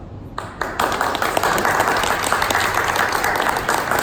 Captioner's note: clapping